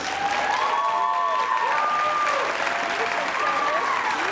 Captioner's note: cheers and applause